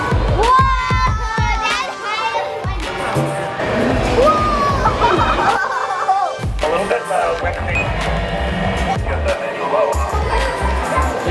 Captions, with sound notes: - Whoa, that's high up. (children laughing)